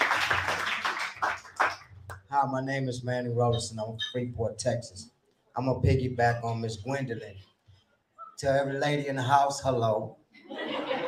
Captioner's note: applause